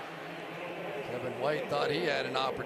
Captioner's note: pa announcement